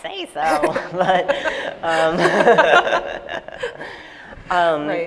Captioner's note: laughter